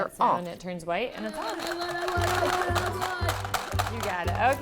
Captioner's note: rattling